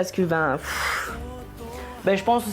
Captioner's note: sighs